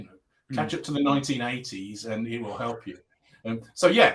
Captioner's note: laughing